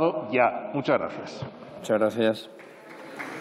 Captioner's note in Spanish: Aplausos